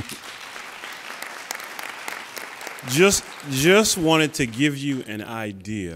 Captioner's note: applauding